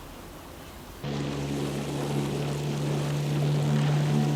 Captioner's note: motor roaring